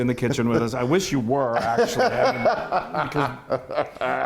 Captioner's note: laughs